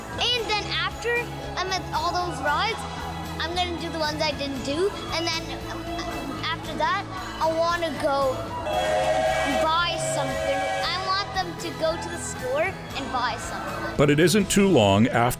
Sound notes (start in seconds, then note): 8.6 whistles